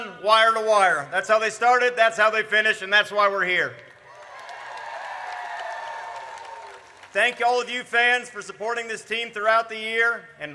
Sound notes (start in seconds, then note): 4.1 audience cheers